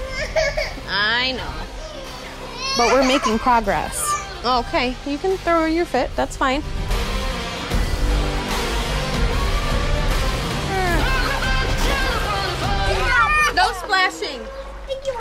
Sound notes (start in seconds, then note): 1.7 cries